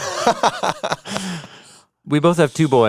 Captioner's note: laughs